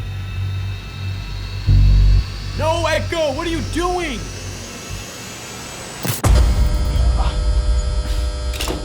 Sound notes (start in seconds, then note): 6.2 explosion